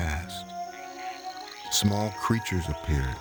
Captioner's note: animals chirping; gentle orchestral music